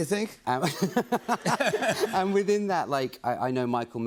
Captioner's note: laughter